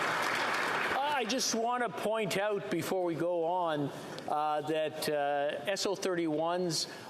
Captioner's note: applause